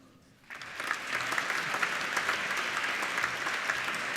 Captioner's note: applauding